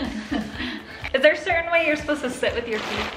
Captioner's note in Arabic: الكل يضحك